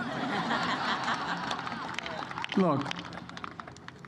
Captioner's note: laughter